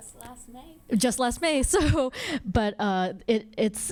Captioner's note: laughs